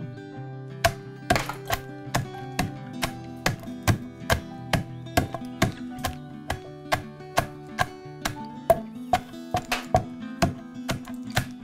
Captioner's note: heavy thudding, crunching